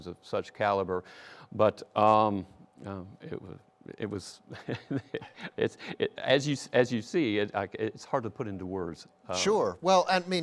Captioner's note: laughs